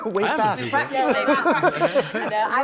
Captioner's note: laughter